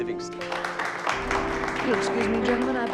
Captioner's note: crowd clapping